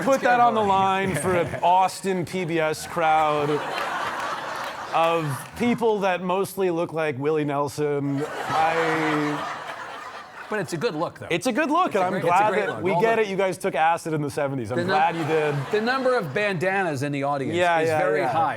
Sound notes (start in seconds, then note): 8.0 audience laughing